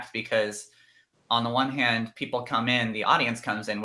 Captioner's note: none